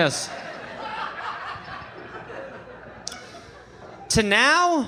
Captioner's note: audience laughing